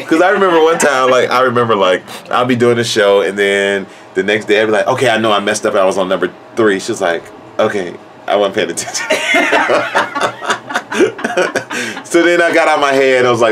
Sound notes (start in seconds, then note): 8.9 laugh